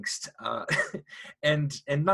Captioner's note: chuckles